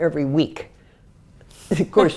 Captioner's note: laugh